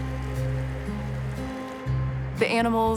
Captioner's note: water flowing